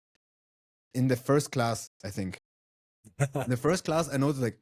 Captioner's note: laughs